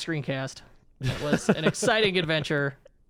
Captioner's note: laughing